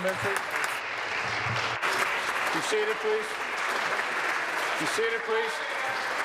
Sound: applause

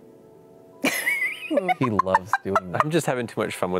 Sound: laughing

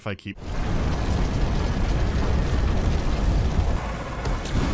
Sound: grinding of massive gears

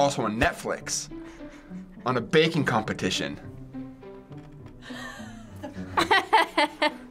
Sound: laughing

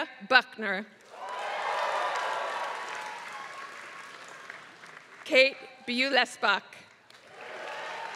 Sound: applause; applause

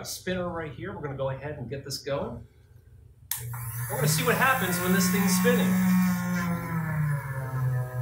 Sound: machine whirrs

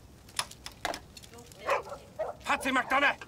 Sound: dogs barking

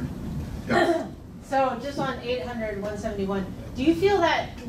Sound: clears throat

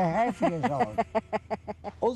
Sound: laughing

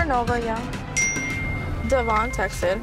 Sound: phone chimes

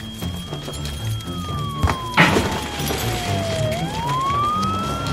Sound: dramatic music; emergency sirens

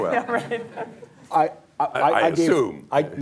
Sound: laughter

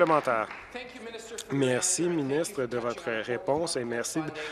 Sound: applause

